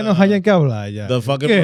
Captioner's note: speaking In Foreign Language